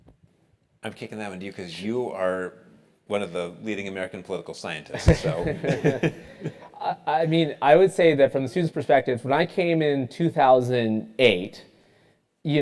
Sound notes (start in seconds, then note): 5.0 laugh